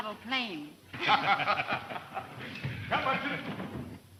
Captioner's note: all laughing